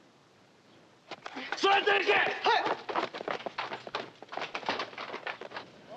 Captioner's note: shouting in Japanese